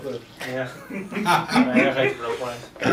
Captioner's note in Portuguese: risos